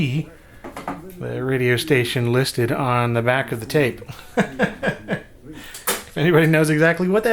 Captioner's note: laughs